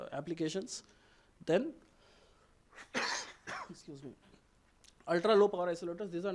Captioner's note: coughing